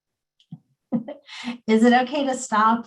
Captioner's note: chuckles